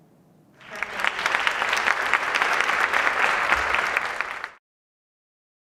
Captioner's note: audience applauding